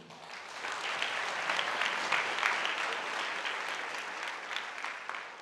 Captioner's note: audience applauding